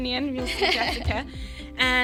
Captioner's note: laughing